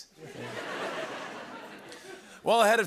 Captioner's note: laughter